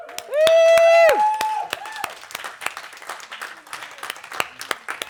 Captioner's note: cheers and applause